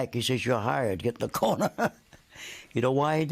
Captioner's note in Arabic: يضحك